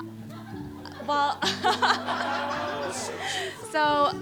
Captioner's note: laughter